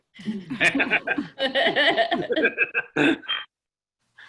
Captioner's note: all laugh